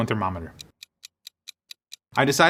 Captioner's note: timer ticking